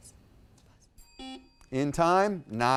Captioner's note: timer dings; buzzer dings